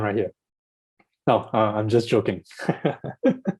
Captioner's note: laughs